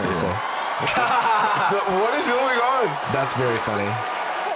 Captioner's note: laughs